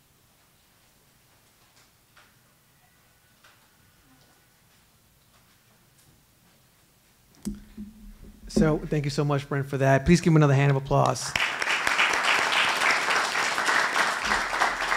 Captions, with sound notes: -So thank you so much, Brent, for that. Please give him another hand of applause. [ Applause ]